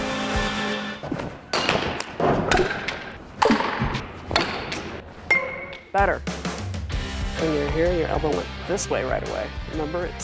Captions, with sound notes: (upbeat music) (crack of hitting ball) Better. When you're here your elbow went this way right away,